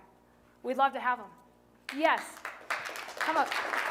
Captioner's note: applause